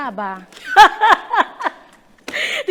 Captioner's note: teacher laughing sarcastically